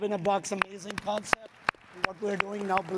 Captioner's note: audience clapping